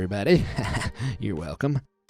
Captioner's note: narrator chuckling